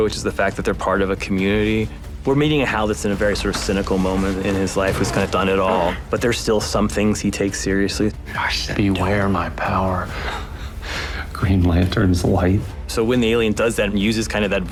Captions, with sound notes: which is the fact that they're part of a community. We're meeting a Hal that's in a very sort of cynical moment in his life, who's kind of done it all, but there's still some things he takes seriously. -I said don't. -Beware my power... (CHUCKLES) ...Green Lantern's light. So when the alien does that and uses kind of that voice